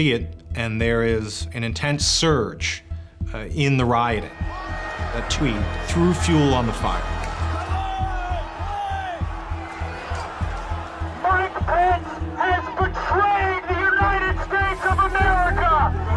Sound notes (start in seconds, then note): 7.0 shouting, air horn blaring